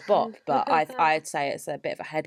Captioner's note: laughs